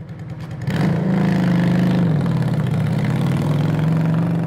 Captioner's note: motorcycle